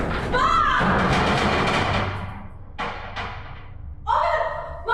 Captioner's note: door clanks; door rattling